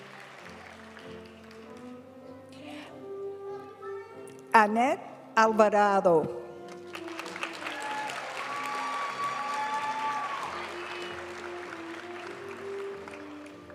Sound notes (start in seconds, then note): 6.8 audience cheering and applauding; 10.0 graduation music